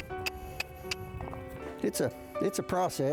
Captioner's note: trainer clucking